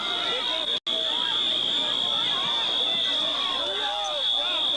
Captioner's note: crowd shouting